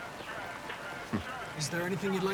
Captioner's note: laugh